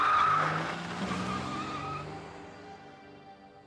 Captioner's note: tires squealing